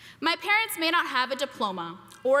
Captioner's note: none